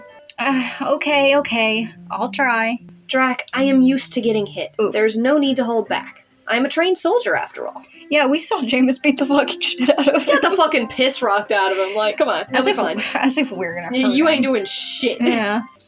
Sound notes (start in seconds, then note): 9.4 laughing; 13.0 scoff